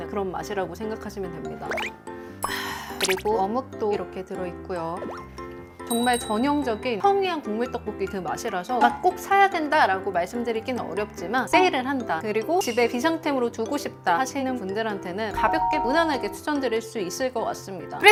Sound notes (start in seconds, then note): 3.0 slurp